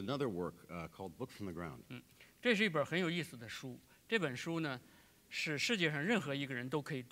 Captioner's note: speaking in Chinese